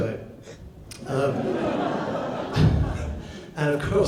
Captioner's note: audience laughs